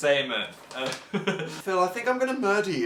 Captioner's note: laughs